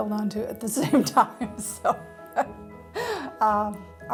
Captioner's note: laughs